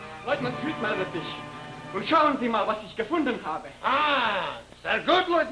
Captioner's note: speaks German